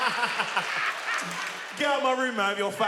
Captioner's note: continues laughing